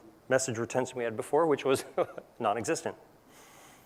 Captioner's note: laugh